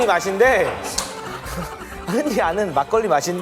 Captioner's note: got the giggles